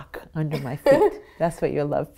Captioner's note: laughing